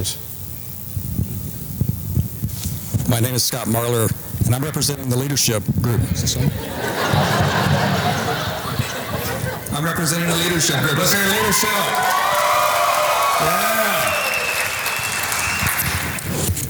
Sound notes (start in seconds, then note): 6.2 taps the microphone to see if it is on as audience laughs and applauds; 11.5 audience applause